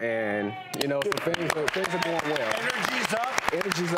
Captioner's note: audience applauds